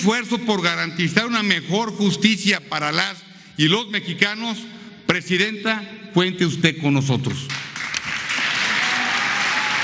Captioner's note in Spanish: aplausos